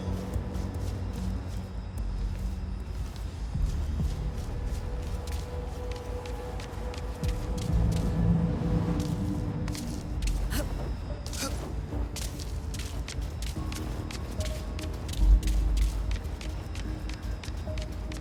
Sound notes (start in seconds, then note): 1.4 suspenseful music; 10.4 grunting; 12.8 suspenseful music